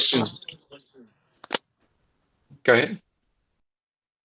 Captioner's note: echo